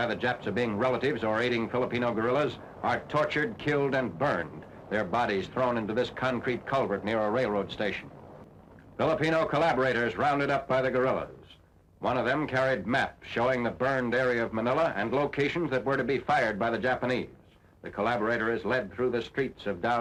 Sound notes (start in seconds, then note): none